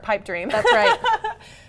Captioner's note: laughter